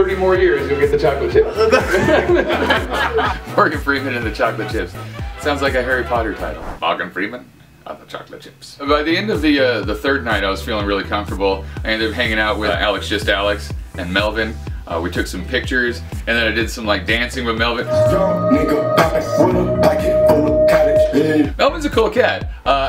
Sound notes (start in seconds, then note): 1.4 laughter